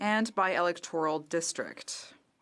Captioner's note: speaking French